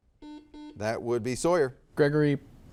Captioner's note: soft beeping